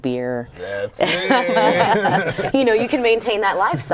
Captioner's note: laughter